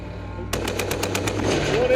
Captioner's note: artillery roars